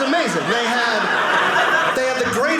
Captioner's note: audience laughing